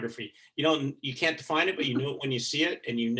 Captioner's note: chuckling